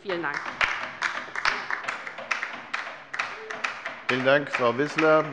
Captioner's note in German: Beifall bei der LINKEN